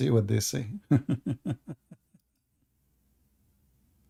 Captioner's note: Ketawa